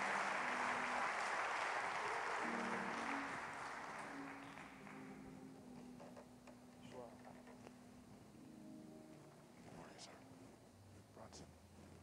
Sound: applause

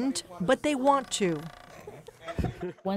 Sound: students laughing

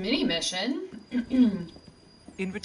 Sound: clears throat

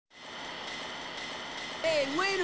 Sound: machinery whirring

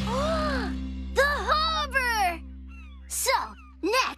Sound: gasps

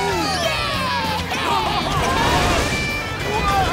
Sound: laughing

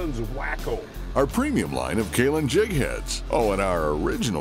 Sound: voiceover

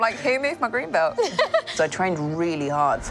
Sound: chuckling

